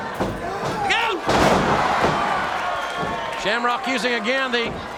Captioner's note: body thuds